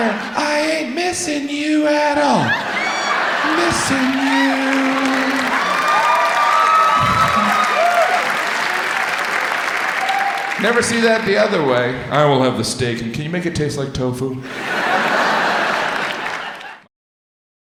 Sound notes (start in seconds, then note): 4.9 audience applauds; 14.4 audience laughs